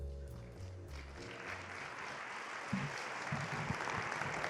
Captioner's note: audience applauding